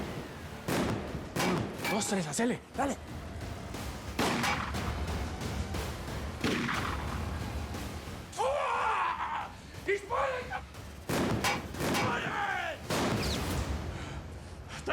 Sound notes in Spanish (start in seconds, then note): 4.4 continúa la balacera; 11.5 continúa la balacera